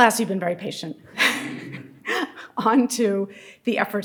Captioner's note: audience laughing